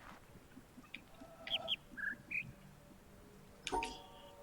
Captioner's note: bird chirps high-high-low-mid